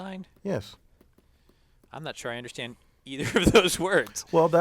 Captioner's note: laugh